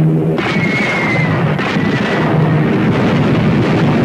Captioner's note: cannons firing; explosions booming